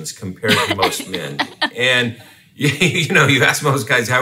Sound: laughs

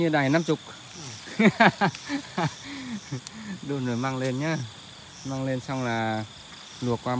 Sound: laughter

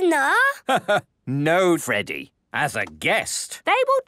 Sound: laugh

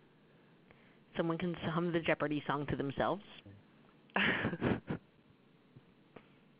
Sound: laugh

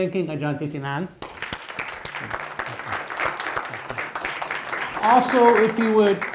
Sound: audience applauding

